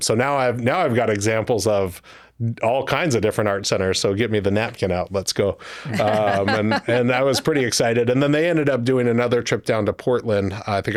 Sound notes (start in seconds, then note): 5.9 laughing